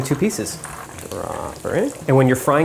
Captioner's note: chicken sizzling